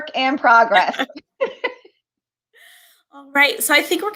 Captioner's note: laughter